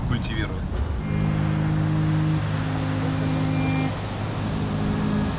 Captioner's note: waves crashing